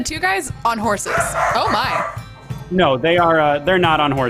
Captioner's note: dog barks